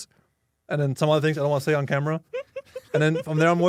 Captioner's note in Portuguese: risos